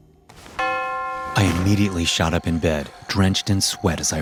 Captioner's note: bell chiming